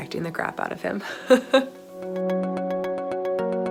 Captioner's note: woman laughs; soft music